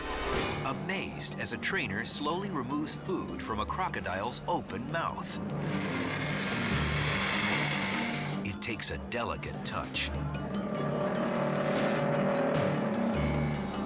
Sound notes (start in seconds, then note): 5.6 crocodile hisses; 10.4 crocodile groaning